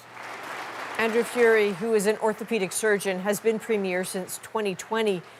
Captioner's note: applause